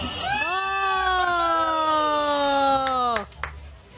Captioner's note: clapping